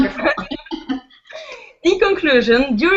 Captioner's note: both laugh